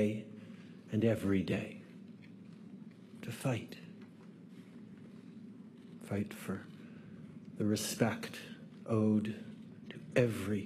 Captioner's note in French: voix de l'interprète